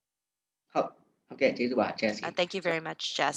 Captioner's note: speaking burmese